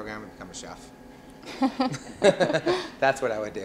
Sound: laughter

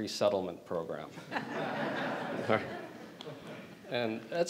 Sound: audience laughing

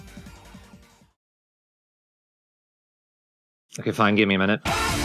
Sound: deathly silence of panicked realization

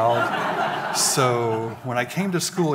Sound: audience laughing

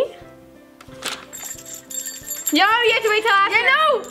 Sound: bell tinkling

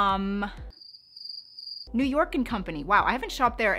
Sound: cricket chirping

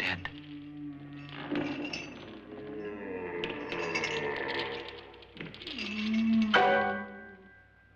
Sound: ghastly moaning; chains rattling; suspenseful music

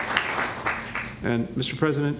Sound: applause

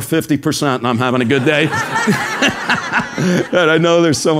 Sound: laugh

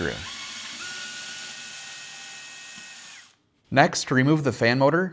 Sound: screwdriver whirrs

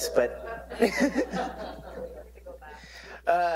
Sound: laugh

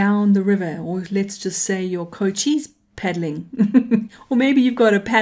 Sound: laughing

